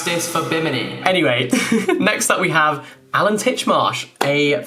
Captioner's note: laughing